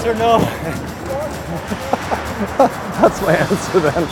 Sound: laughing

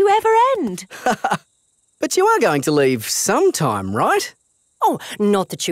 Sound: laughs

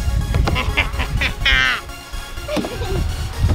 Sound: evil laugh

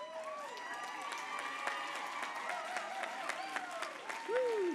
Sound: applause

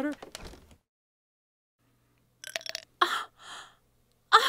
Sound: clinking

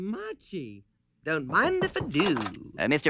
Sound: enthusiastically

